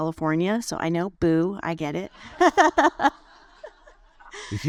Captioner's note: laughs